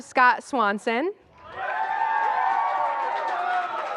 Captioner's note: applause